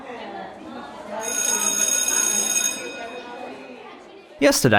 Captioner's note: bell ringing over children chattering